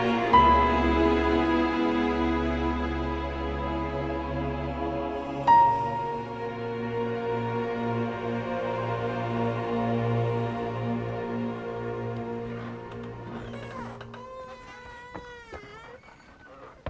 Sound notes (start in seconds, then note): 13.2 door creaking